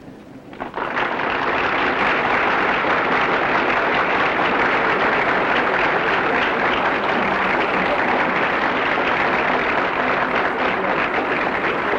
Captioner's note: applause